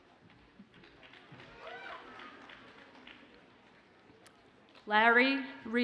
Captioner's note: audience cheers and applauds faintly